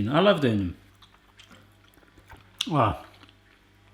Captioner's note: chewing